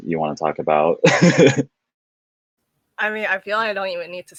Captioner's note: laughing